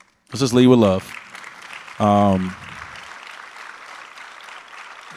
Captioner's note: audience applauds